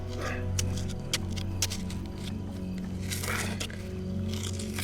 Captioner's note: grunting and digging